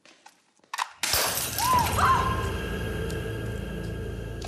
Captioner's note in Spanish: estruendo; grito